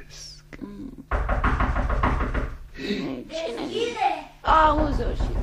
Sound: knocks loudly on the door

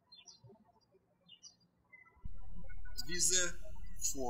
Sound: birds chirping

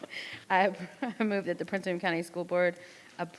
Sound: laughs

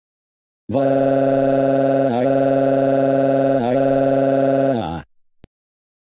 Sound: crying

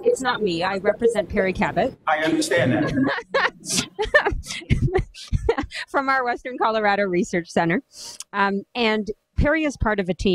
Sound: laughter

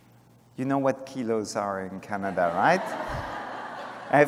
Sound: laughter

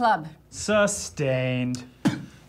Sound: spits

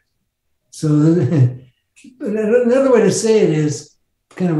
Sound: chuckles

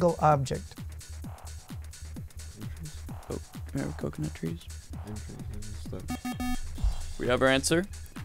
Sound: wispering

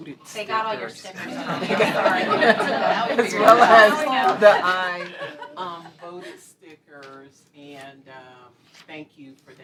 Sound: laughter

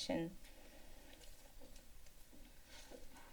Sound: paper rustling sound; footsteps

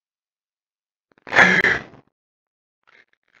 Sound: dramatic breathing

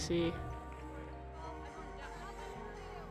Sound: athletes chatting

